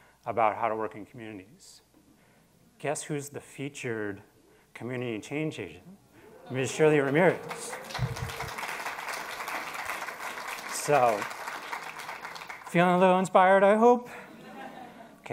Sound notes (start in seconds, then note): 8.5 attendees applauding